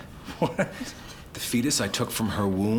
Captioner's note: laughing